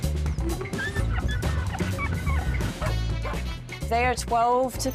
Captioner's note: puppies yelping, barking